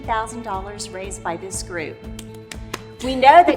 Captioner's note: hands clapping